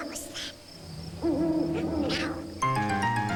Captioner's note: hoot hoot